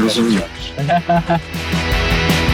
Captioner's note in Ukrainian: Сміх